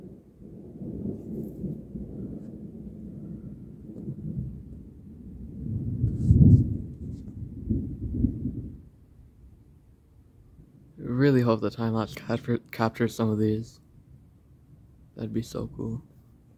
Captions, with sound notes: [Distant thunder] [Louder thunder rumbles] I really hope the time-lapse captures some of these. That'd be so cool.